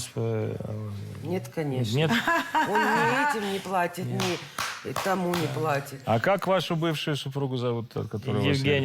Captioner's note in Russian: смех